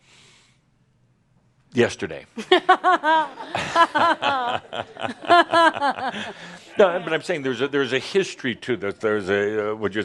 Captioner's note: laughter